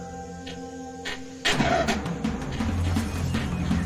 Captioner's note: langur shrieks; frenzied music